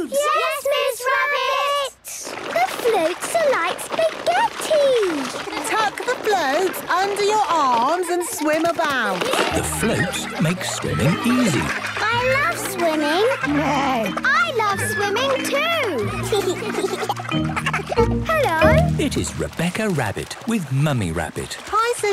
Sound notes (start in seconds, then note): 13.7 neighs; 15.7 giggles